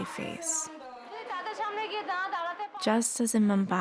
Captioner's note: speaking Indian language